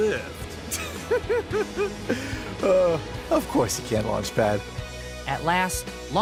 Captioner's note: laughing